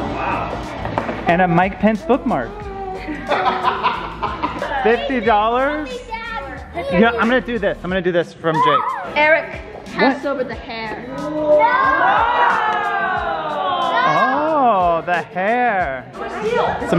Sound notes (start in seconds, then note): 2.7 laughing; 11.4 all exclaiming